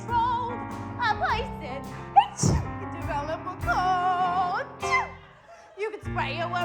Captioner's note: sneezes